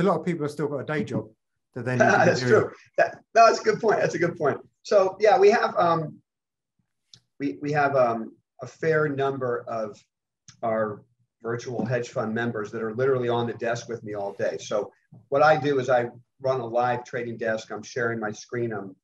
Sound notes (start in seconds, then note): 2.0 laughing